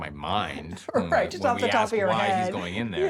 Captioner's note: laughs